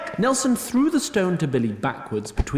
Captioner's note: grunt